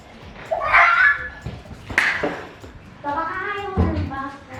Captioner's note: screeching